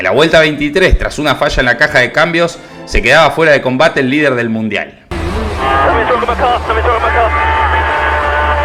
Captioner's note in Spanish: radio